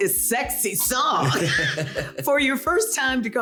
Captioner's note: laughing